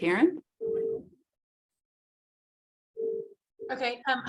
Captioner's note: phone beeping